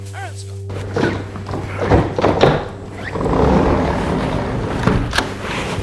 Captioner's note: luggage thumping